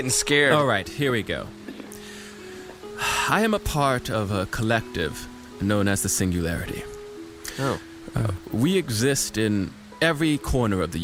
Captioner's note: sighs